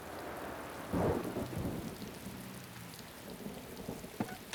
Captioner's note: thunder clapping